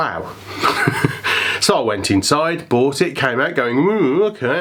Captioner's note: laughs; grumbles